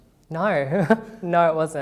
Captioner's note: laughs